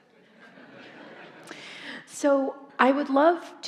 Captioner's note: audience laughing